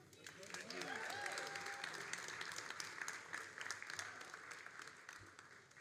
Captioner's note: all applauding and cheering